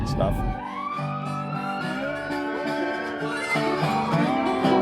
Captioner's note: ambulance sirens